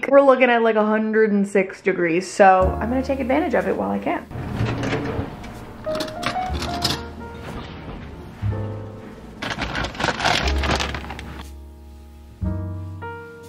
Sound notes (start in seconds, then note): 5.8 silverware clinks; 10.0 bag rustles